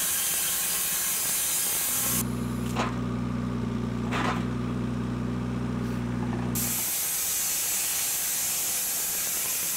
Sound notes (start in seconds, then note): 3.8 engine idling